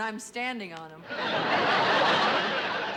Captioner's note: laughter